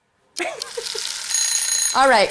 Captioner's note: timer ringing